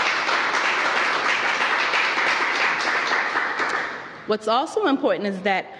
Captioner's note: applause